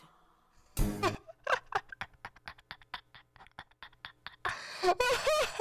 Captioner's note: laughter